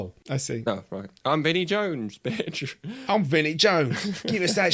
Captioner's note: bad cockney accent